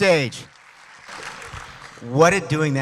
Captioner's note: applause